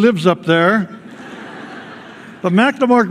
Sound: laughter

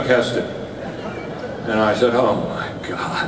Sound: audience laughter

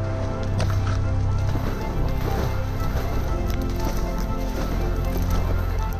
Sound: splashing sounds

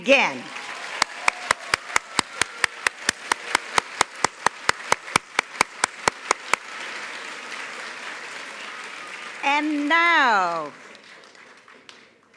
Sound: applause

